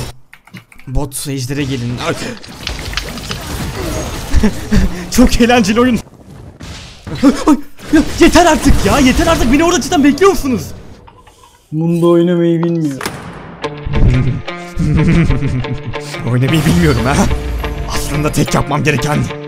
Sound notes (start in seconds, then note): 14.0 physco laugh